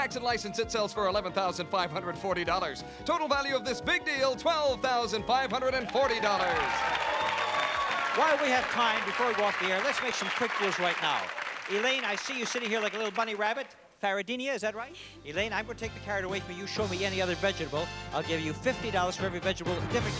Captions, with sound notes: With tax and license, it sells for $11,540. Total value of this big deal: $12,540. (applause) -While we have time before we go off the air, let's make some quick deals right now. Elaine, I see you sitting here like a little bunny rabbit. Paradini, is that right? -Yeah. -Elaine, I'm going to take the carrot away from you. Show me any other vegetable, I'll give you $50 for every vegetable,